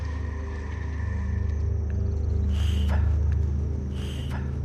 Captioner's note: puffing